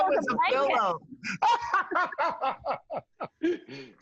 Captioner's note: laughs